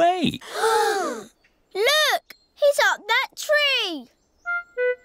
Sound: all gasp

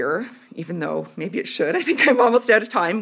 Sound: laughs

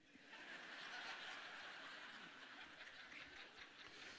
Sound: audience laughing

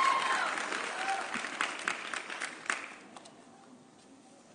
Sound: audience cheering

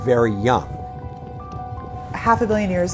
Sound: lava sloshing

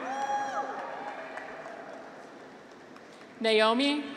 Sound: graduates cheer

